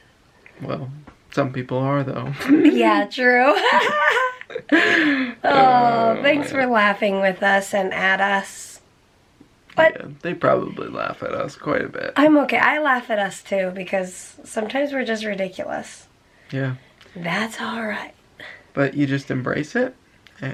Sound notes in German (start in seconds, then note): 3.4 Lachen